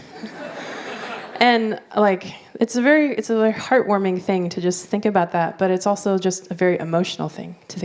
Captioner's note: laughter